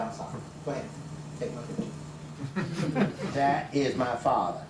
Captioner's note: laughs